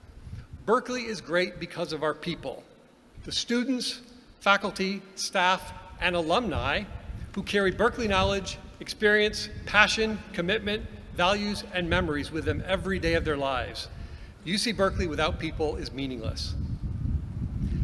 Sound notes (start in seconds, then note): none